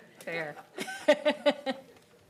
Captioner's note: laughter